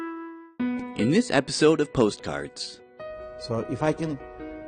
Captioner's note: voiceover